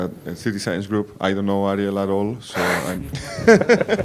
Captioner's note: laughs